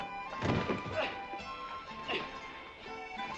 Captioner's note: grunting